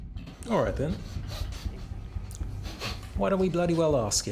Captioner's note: breathing heavily